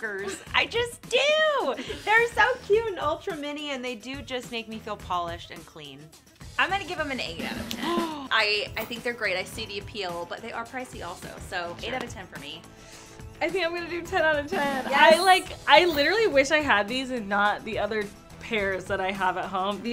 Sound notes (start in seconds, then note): 1.6 laughs; 7.7 gasps